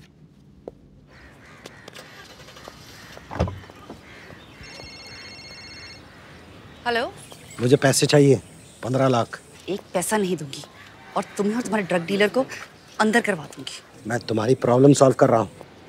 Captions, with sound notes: [Cellphone rings] Hello. I want money. 1.5 million. I won't give you a single penny. And have you and your dealer arrested. I am solving your problem.